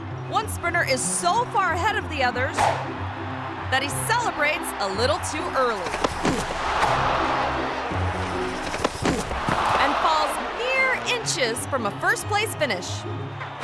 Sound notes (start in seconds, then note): 5.6 runner thuds; 7.0 quirky music; 7.9 runner thuds